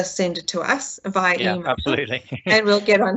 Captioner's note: laughs